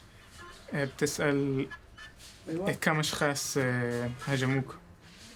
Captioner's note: speaking foreign language